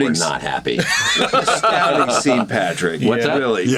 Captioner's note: all laugh